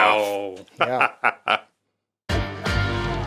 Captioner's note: chuckles